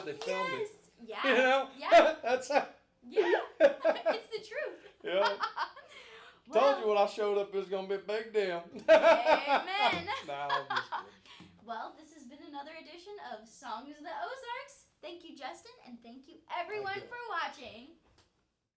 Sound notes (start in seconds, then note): 1.5 both laughing; 8.8 both laughing